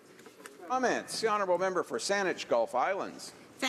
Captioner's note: none